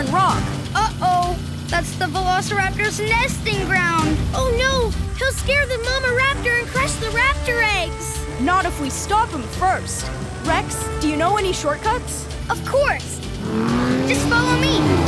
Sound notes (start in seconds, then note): none